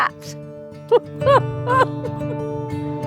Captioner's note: laughs